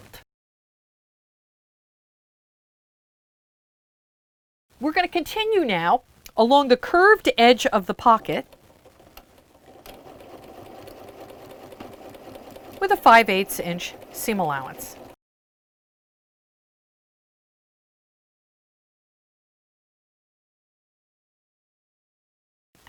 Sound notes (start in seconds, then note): 0.2 no Sound Present; 8.0 sewing Machine Sounds; 15.1 no Sound Present